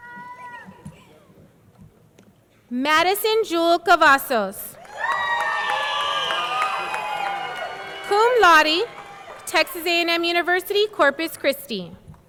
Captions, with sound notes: Madison Jewel Cavazos. (audience cheering) (audience clapping) Cum Laude, Texas A&M University Corpus Christi.